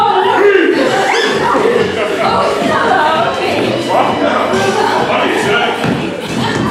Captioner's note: increasingly excited squealing